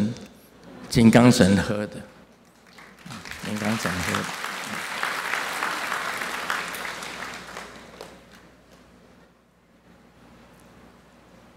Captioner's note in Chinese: 眾鼓掌